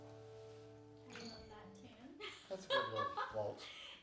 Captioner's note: laughing